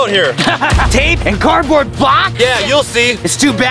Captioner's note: laughing